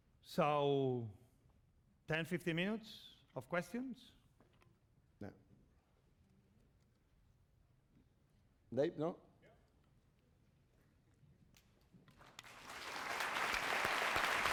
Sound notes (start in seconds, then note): 10.2 speaking spanish; 12.1 applause